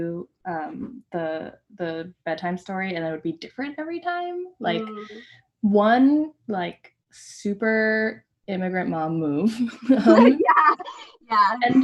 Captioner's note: laughter